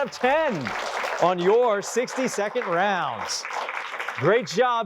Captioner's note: applause